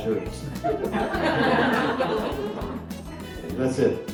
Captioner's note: laughter